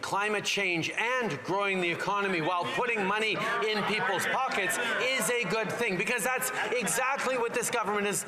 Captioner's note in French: voix de l'interprète